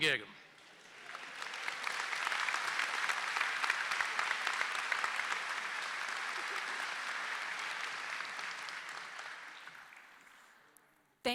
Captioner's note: applause